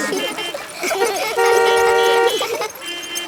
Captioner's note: laughter; beeping